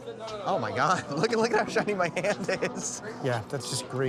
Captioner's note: laughing